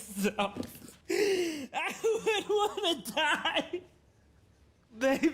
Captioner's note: sobbing